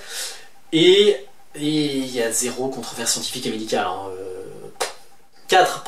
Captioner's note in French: bruit de bouche